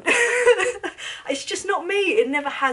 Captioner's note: chuckles